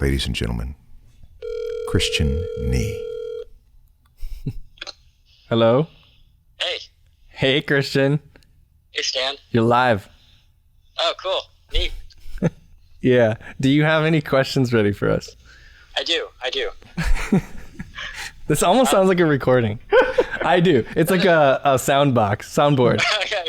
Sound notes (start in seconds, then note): 18.2 chuckles